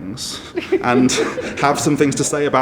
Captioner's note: audience laughs